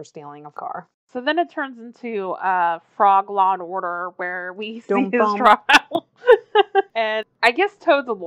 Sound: laughs

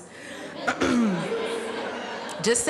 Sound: laughter

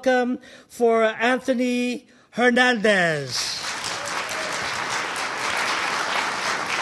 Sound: audience applauding

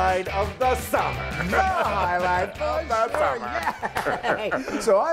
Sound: laugh

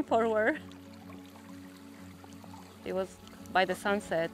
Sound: water trickles

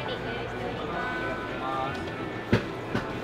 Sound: speaking Japanese

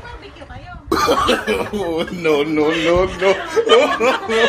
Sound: laughing

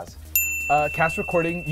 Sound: dinging

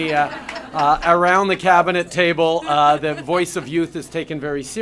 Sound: laughter

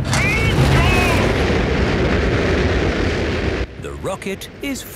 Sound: rockets blasting

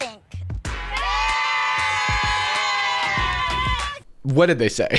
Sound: people cheering

